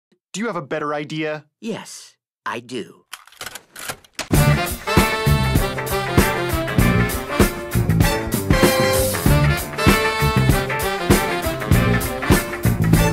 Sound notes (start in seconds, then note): 3.8 click